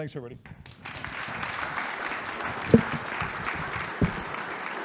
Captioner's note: audience applauding